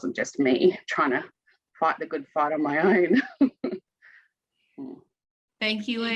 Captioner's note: chuckles